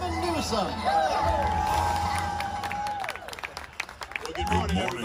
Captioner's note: applause